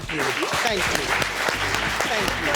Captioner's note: audience claps